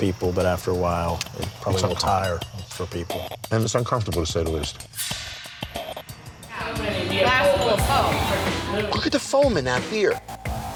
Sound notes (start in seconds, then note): 6.6 crowd chatter